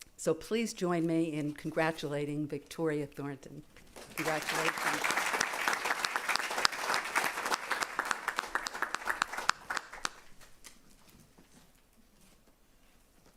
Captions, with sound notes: so please join me in congratulating Victoria Thornton, congratulations. [applause]